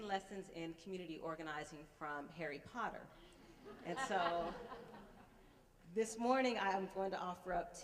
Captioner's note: laughter